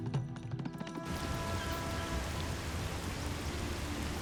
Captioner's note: water rushing